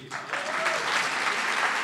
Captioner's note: cheering & Applause